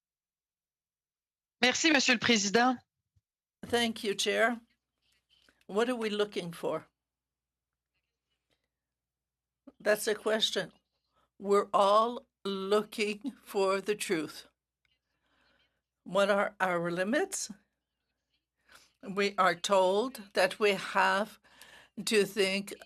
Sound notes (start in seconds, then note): 9.1 speaking French